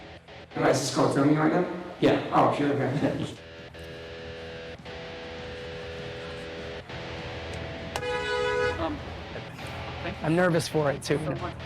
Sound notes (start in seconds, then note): 7.9 car horn blaring